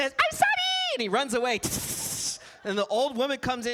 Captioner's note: hisses